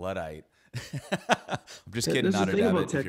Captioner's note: laughs